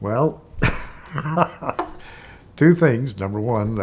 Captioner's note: chuckling